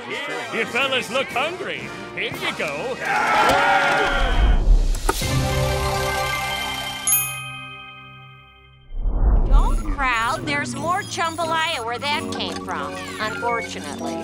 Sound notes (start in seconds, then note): 3.1 screaming, whistling